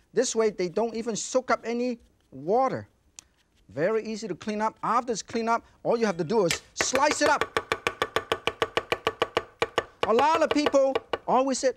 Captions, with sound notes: This way, they don't even soak up any water. (brush whishing) Very easy to clean up. After it's clean up, all you have to do is slice it up. (knife thudding) A lot of people always said,